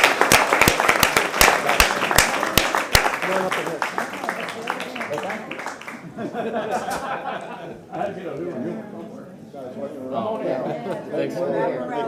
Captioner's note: applause